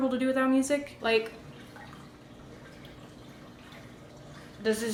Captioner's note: silence